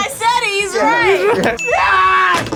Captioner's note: laughs